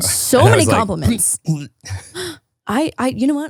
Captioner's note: gagging